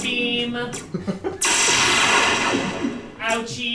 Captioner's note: lazer sounds